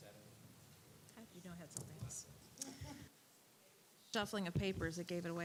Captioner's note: muffled group chatter